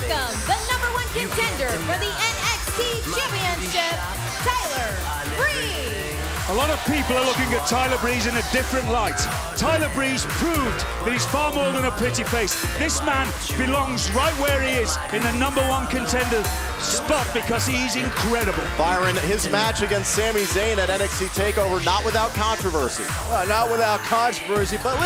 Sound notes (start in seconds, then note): 12.9 cheers & applause